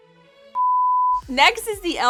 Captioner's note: beep